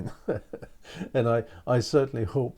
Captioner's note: chuckling